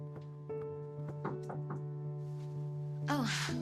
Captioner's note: knocking at door